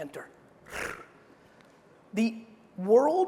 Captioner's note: air whooshing